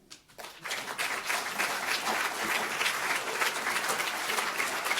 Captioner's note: audience applauding